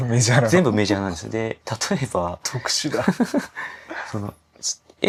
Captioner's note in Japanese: 笑い